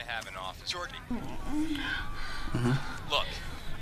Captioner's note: more heavy breathing